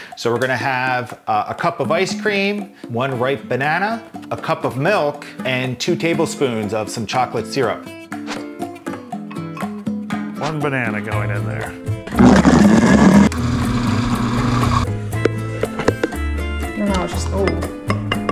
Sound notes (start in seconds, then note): 12.1 various blenders whirring